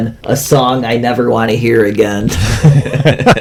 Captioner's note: laughs